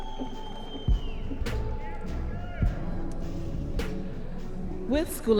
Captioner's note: audience members cheering